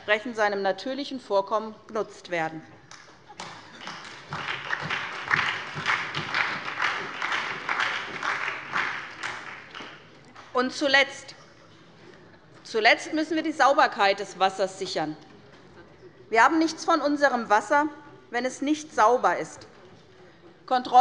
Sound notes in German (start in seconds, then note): 2.9 Beifall bei der SPD und bei Abgeordneten der LINKEN